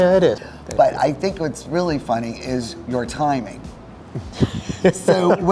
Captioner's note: laughs